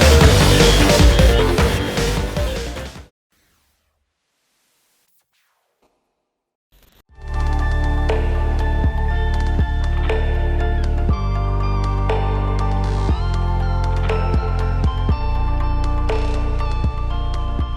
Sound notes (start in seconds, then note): 3.6 soft static sounds; 7.3 calm music